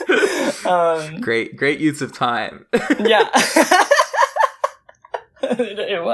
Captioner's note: both laugh; laughs